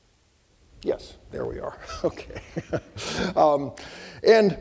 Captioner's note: laughing